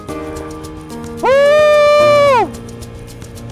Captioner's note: exclamation